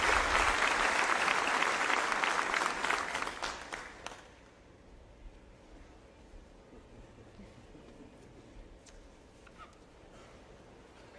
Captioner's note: applause